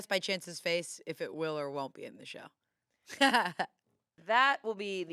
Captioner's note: laughs